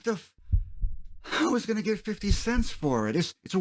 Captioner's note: heartbeats